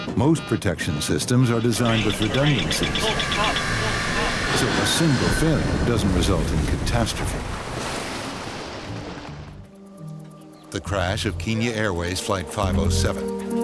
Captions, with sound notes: Most protection systems are designed with redundancies so a single failing doesn't result in catastrophe. (water splashing) (loud crash) The crash of Kenya Airways flight 507.